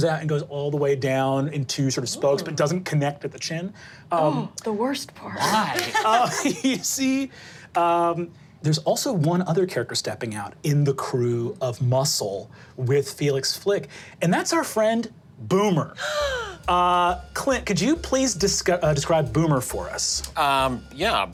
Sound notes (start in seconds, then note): 5.4 laughs; 16.0 gasping